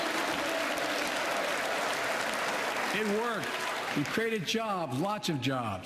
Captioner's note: applause